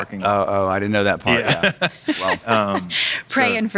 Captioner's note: laughing